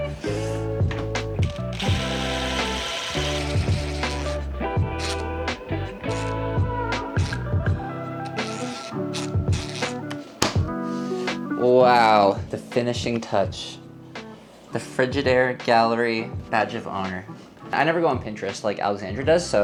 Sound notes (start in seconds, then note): 0.1 upbeat music; 1.4 drill whirs, upbeat music